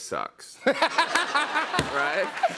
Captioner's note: laughter